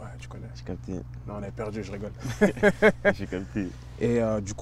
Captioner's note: laughs